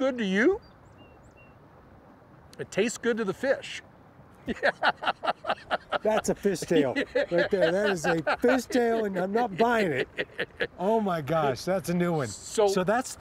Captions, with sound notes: If it tastes good to you, it tastes good to the fish. (laughter) That's a fish tale. That is a fish tale, and I'm not buying it. Oh, my gosh, that's a new one.